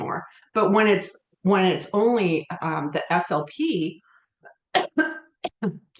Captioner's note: coughs